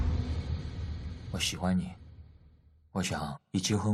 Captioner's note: chinese dialogue